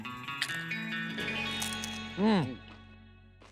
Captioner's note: crunching